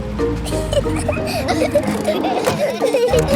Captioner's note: children giggling